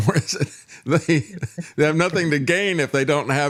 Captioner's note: laughing